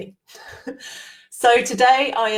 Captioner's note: laughs